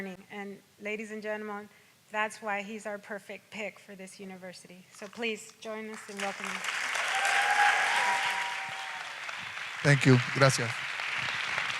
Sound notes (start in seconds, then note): 5.9 audience applauds and cheers; 10.2 speaks in Spanish